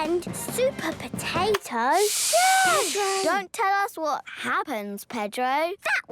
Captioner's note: all shushing